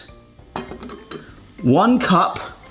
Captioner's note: metal rattling